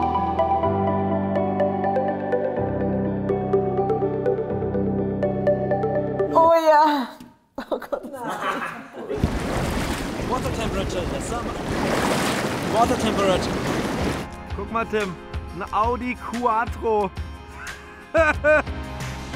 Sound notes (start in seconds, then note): 7.6 laughing